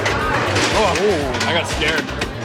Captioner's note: kabang